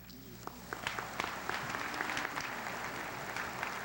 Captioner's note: applause